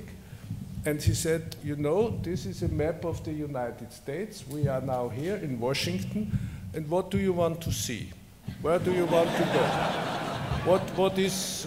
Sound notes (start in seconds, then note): 8.8 laughter